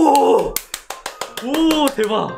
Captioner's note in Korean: 짝짝짝짝짝짝